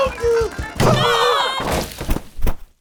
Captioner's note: screams